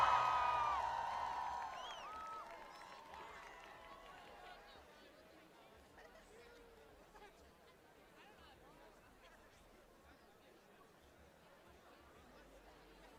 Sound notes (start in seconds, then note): 0.0 applause